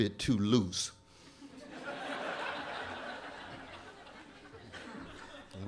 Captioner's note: laughter